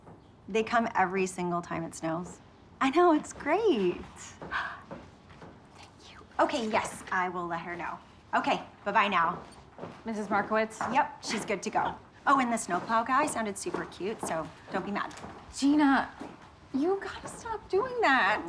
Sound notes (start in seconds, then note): 5.7 whispering